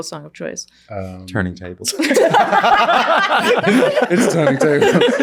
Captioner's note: all laughing